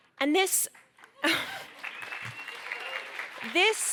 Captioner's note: applause